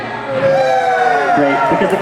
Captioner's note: cheers